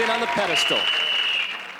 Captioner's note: whistle blowing